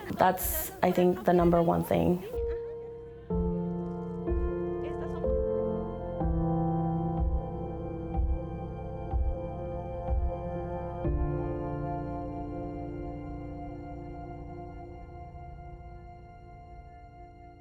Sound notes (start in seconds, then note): 3.3 gentle music continues; 5.2 speaking Spanish